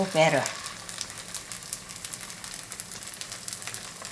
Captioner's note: pan sizzling